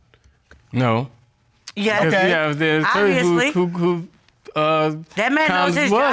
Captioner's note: stammering